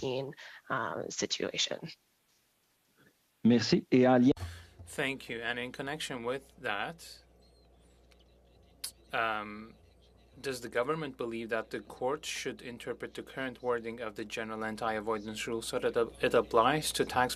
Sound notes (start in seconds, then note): 13.1 speaking French